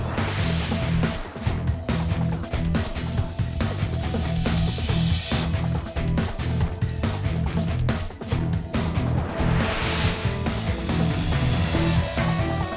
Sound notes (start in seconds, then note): 0.0 graphic swooshes; 8.7 graphic swooshes